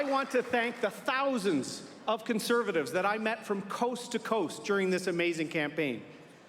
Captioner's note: applause